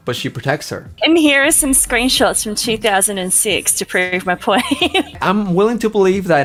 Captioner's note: laughs